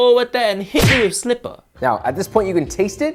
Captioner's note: slipper thwacking